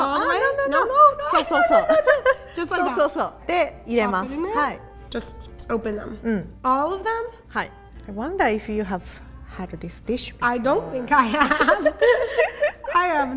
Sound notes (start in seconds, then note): 0.1 speaking in Japanese; 7.6 speaking in Japanese; 11.3 laughing